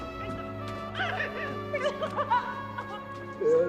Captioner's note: sobs; somber music